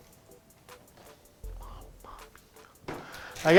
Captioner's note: sniffs